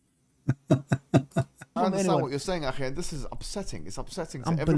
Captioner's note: Ketawa